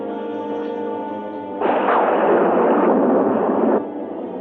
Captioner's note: thunder crashing